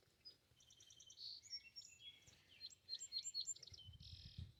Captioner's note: birds tweeting